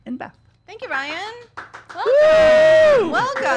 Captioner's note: cheering